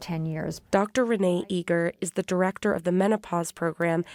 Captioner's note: voice-over